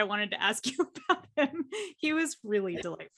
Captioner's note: chuckles